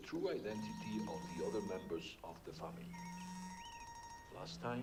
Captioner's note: news broadcast continues; phone vibrates